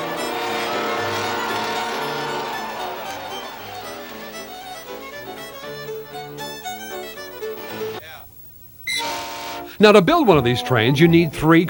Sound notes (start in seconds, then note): 0.0 engines whine; 8.9 horn honks